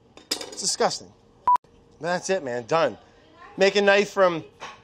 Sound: beeps

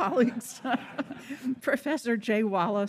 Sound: audience laughing; laughing

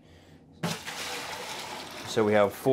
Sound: water sloshing

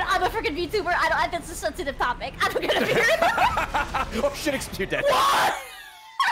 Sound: laughs

